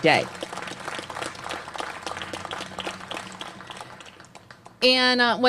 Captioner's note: applause